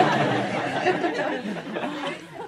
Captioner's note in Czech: smích